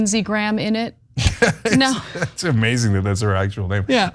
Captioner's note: laugh